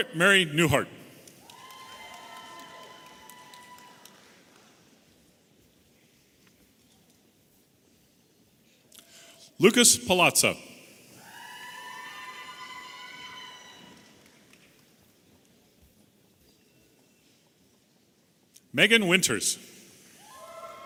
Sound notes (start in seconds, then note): 1.4 audience applauding and cheering; 11.2 audience applauding and cheering